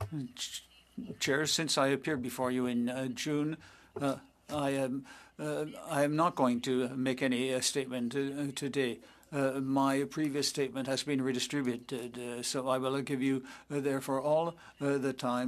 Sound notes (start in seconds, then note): 3.2 speaking French